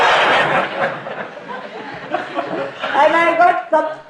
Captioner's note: laughter